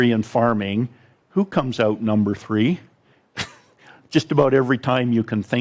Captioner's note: chuckles